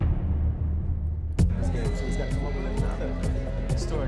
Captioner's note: indistinct chatter